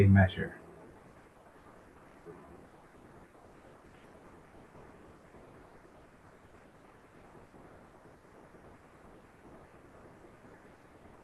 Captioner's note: pause